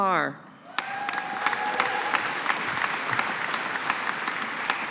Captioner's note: audience applauding